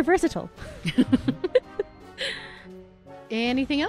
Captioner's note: laughter